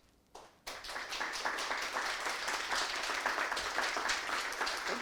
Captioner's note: audience applauding